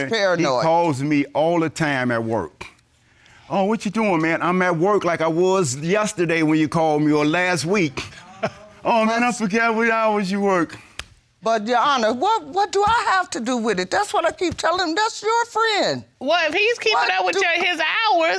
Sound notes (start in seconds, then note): 7.8 chuckles